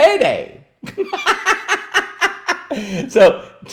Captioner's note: laughs